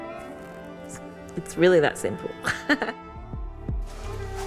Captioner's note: laughs